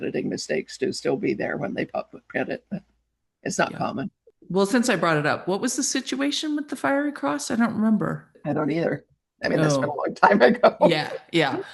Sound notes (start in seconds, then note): 10.2 chuckles